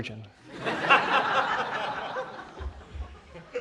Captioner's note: laughter